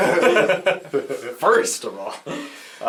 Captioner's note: all laugh